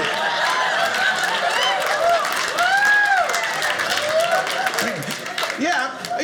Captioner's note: audience cheers